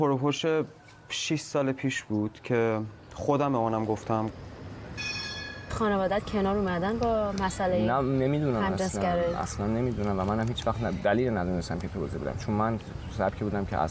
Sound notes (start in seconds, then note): 4.9 tram bell rings